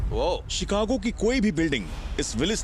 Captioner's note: narrating